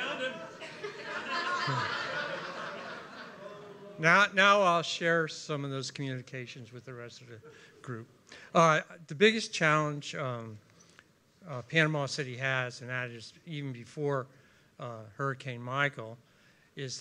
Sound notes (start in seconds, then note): 1.9 continued laughter